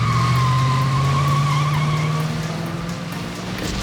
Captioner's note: tire squeal